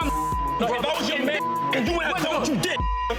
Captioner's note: beep